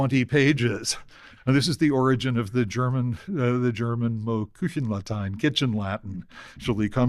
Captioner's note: german